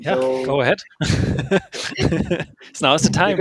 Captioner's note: laughs